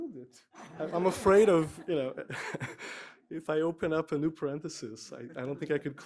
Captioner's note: laugh